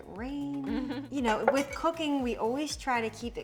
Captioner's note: chuckling; knife clattering